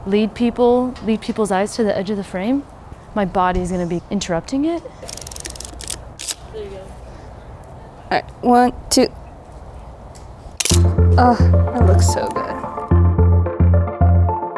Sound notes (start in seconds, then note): 5.0 film roll advances; 10.6 shutter clicks